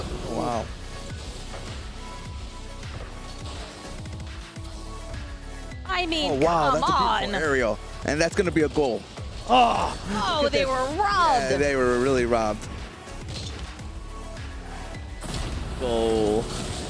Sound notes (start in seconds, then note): 1.1 chill music; 9.4 groans; 12.6 chill music